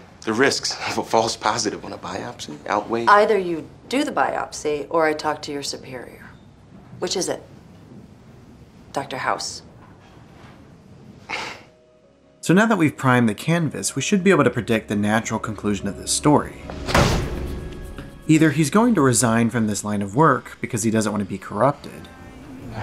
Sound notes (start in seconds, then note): 11.1 scoffs; 16.9 punch